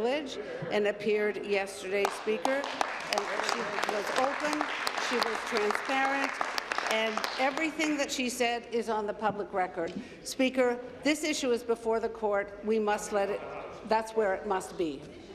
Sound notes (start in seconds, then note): 6.5 applause